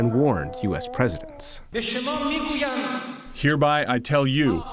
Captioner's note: through translator